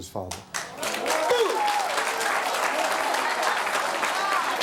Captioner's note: audience applauds